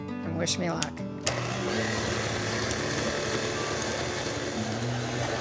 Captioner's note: stand mixer whirring